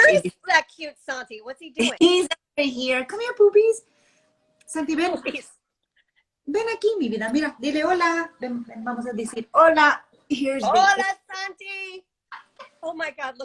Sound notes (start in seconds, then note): 4.7 speaking spanish